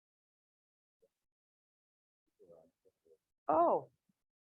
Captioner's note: man speaking off mic